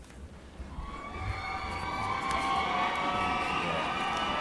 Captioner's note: loud cheering